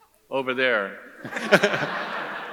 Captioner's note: audience chuckles; chuckles